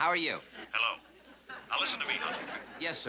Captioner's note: on phone